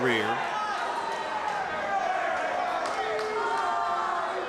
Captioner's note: crowd yells